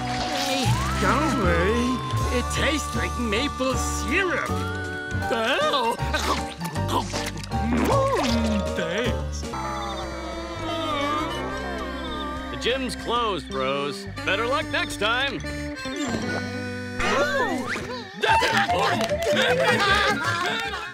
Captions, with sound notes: Don't worry. It tastes like maple syrup. Thanks. [groaning] The gym's closed, bros. Better luck next time. Ooh. [laughing]